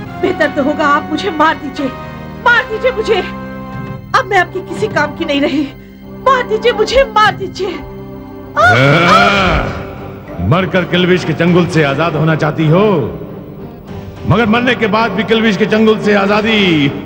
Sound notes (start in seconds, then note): 8.6 grunts